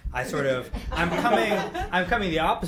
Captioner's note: group laughing